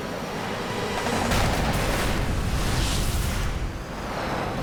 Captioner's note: boom